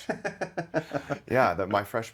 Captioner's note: laughing